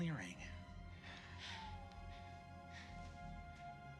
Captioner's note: pants